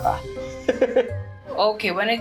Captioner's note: chuckles